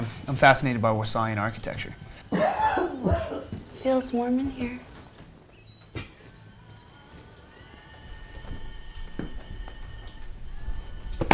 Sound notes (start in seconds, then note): 5.9 dad coughing; 8.4 radio blaring